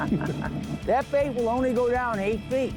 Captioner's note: speaker laughs